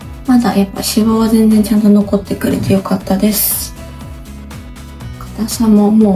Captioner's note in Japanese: 咳払い